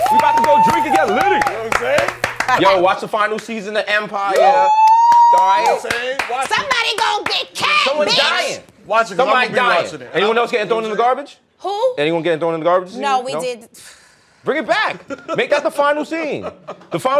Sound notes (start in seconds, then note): 0.0 applause; 4.3 whooping; 6.3 yelling